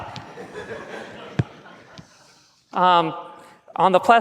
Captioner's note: laughs